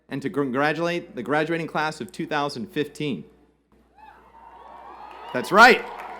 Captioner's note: cheers and Applause